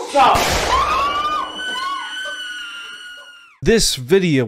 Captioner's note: women screaming